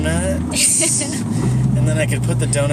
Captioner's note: laughs